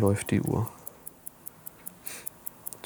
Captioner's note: soft ticking